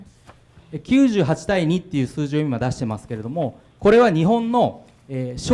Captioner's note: speaking foreign language